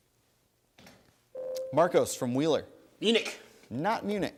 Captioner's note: ding